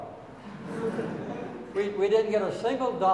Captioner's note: audience laughing